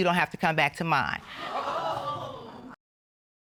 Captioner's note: audience hooting